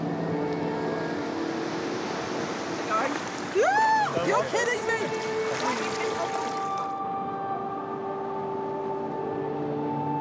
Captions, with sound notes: Get going. (EXCLAIMS) You're kidding me! (ETHEREAL MUSIC)